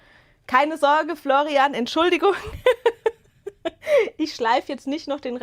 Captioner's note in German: Gelächter